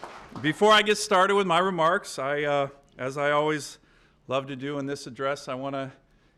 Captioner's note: applause